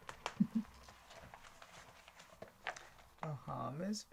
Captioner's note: Linda chuckling